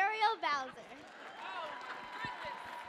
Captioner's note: audience cheering